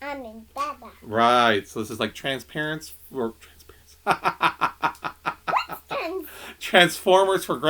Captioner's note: laughter